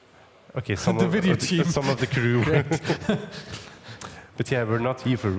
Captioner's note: both laugh